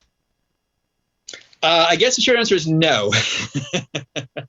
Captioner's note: laughter